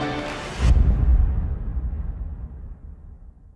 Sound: whoosh

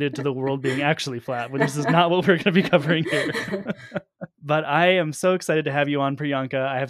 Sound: chuckle

